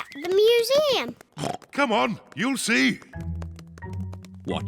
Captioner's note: oinks